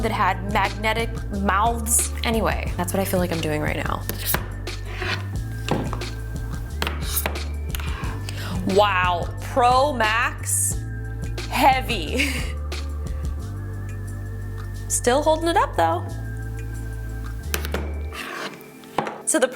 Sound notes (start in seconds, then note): 4.2 magnet clinks; 12.1 chuckles; 12.8 soft electronic music; 17.8 magnet clinks